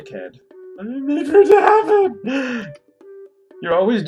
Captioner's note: wailing